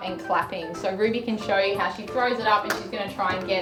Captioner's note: clapping